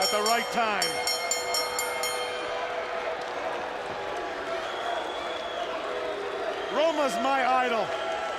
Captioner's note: bell ringing